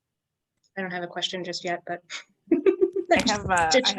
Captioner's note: chuckles